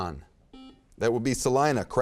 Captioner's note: beeping